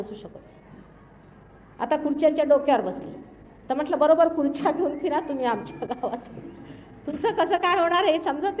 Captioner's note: laughing sound